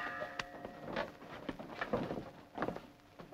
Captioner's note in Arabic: رنين الجرس